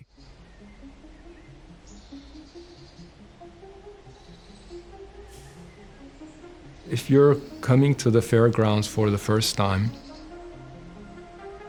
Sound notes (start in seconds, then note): 0.2 birds chirping; 1.4 gentle music